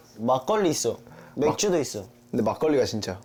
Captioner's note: excited